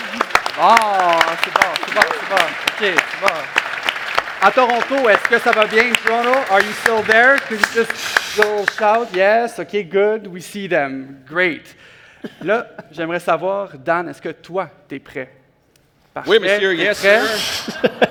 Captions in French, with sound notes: Bon! C'est bon, c'est bon, c'est bon, OK. C'est bon! (applaudissements) À Toronto, est-ce que ça va bien? À Toronto, êtes-vous toujours là? Pourriez-vous... Oui? OK, très bien. On les voit. Super. Là, j'aimerais savoir, Dan, est-ce que toi, tu es prêt? - Oui, Monsieur! "Yes, sir"! - Parfait.